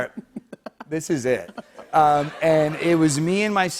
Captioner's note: light laughter